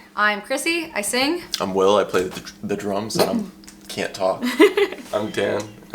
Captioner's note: stutters